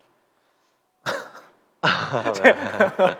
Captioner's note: coughs